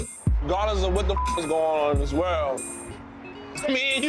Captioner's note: beeps